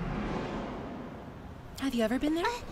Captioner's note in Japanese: 子供の声